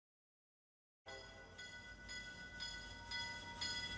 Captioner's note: bells tolling